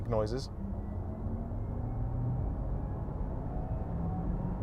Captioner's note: engine revving